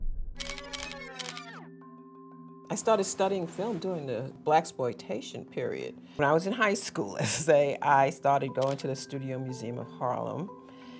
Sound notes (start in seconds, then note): 0.4 film reel clicking